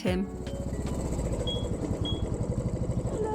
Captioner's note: bike engine; beeping sound